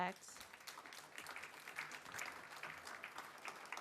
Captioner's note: applause